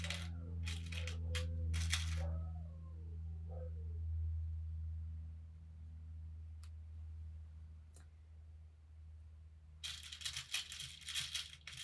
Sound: jumbly metal sounds

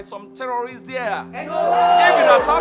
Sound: shouts

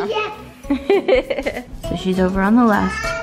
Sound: laughs

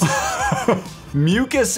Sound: laughs

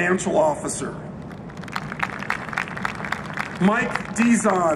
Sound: applause

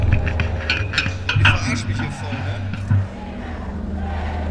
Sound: klonk

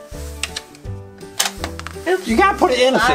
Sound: toy clicking

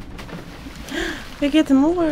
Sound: gasp

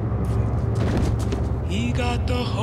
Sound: body thuds

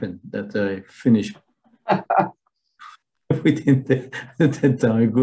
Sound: laughter

